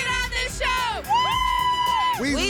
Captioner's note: cheering